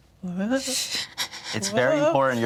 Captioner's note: hastily breathes in three times